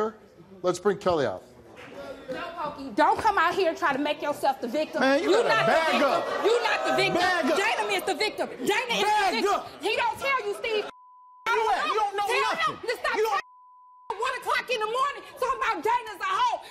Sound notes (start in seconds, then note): 10.9 beep; 13.3 beep